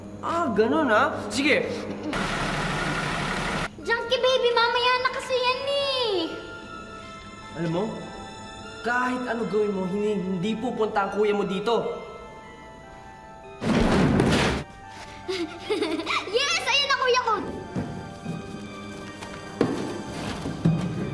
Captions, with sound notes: -Oh, really? All right. -[vehicle approaching] Junkie Baby, do that later. You know what, no matter what you do, your brother won’t be coming here. [objects crash] [laughs] Yes. My brother’s here.